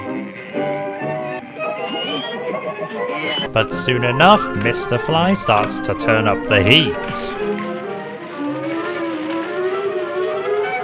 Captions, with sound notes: But soon enough, Mr Fly starts to turn up the heat. [fire crackles]